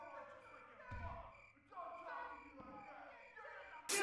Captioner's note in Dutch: schreeuwend; slaande geluiden